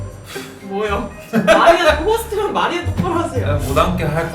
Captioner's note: embarrassed laugh